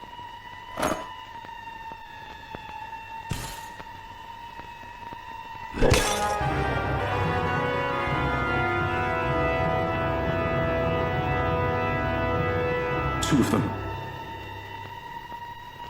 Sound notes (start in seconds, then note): 3.3 glass shattering; 5.8 sinister music